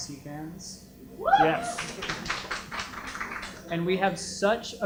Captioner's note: applause